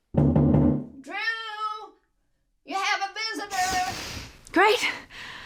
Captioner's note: knocking on door